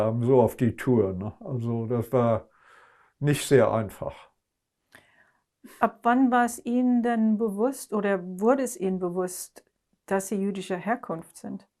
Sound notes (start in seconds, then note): none